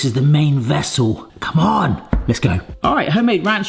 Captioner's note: knocks